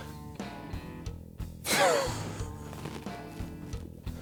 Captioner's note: laughs